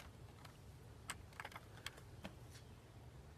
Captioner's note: rustling